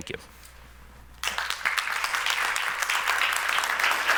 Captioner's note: clapping